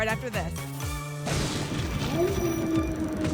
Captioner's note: thunder; wolf howl